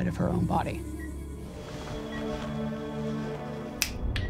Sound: beeping; ominous music

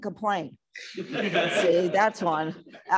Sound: laughter

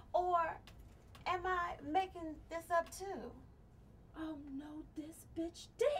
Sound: none

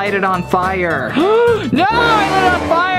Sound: gasps

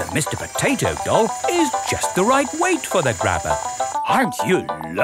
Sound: none

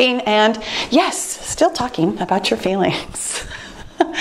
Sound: laughing

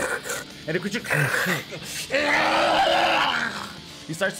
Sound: screaming of agony

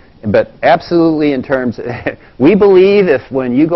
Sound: laugh

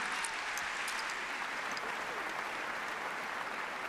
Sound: applause

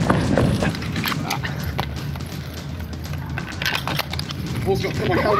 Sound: heavy breathing; keys jangling

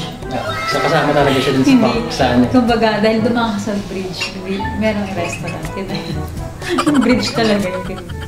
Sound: sarcastic

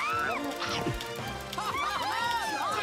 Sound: all cheering

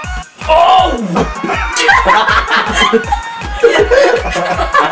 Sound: laughs

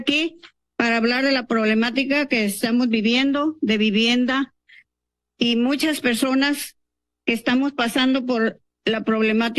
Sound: speaking in Spanish

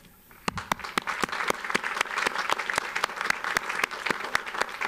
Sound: audience applauds

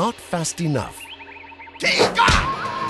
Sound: yelling

